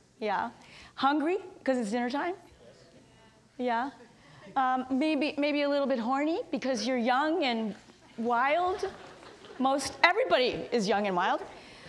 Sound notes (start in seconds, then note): 2.7 audience murmurs; 8.8 audience titters